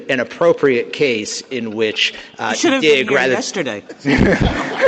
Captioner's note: laughter